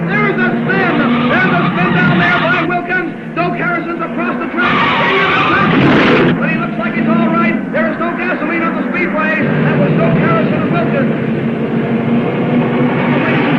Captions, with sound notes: There's a spin. There's a spin down there by Wilkins. Bill Carrison is across the track. (tires squealing) (car crashing) But he looks like he's all right. There is no gasoline on the speedway. And there's no Carrison or Wilkins. (cars revving)